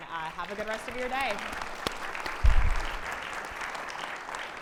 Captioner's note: audience applauds